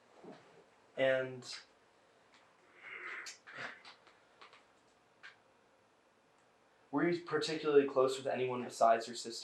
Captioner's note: pauses 6 seconds